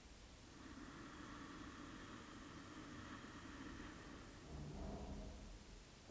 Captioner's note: longInhale